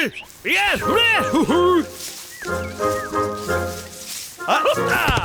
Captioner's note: beckoning noise